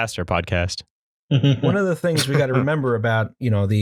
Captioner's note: laughter